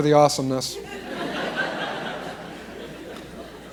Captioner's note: laughter